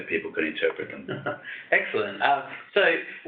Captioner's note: chuckles